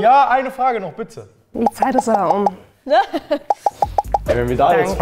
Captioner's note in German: Lachen